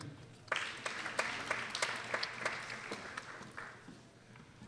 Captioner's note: people applauding